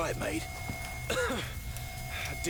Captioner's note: coughing